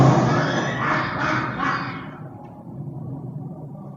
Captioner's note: laughing